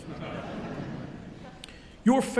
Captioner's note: audience laughing